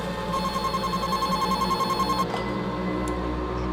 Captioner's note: phone ringing